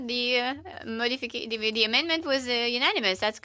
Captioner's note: speaking French